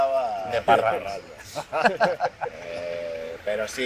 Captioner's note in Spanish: risas